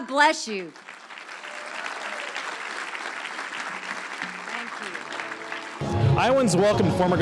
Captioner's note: audience cheers